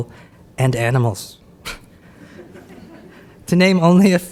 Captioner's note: audience laughs